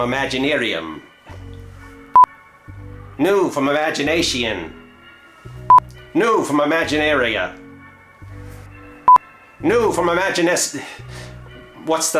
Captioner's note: beep